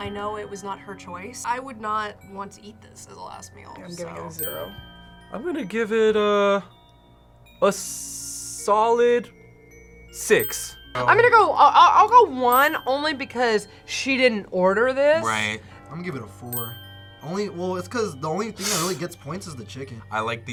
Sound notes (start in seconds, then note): 18.6 gasps